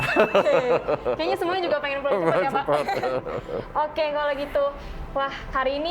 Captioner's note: laugh